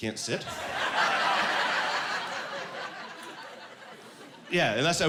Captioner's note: laughing